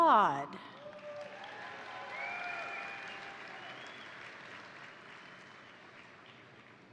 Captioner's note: crowd cheering; crowd applauding